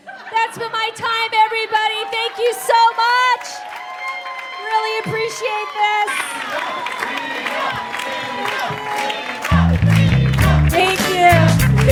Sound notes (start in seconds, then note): 3.6 audience cheers and whoops; 7.7 continued whoops from audience; 10.0 audience in unison